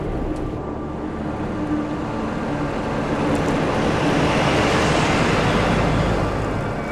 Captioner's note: car passing; ominous music